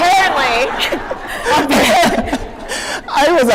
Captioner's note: laughter